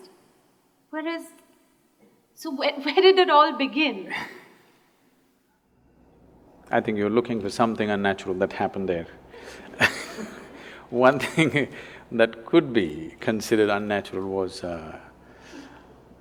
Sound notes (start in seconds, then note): 9.5 laughs